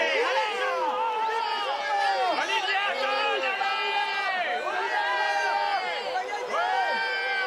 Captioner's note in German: beifall